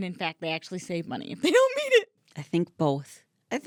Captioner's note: laughing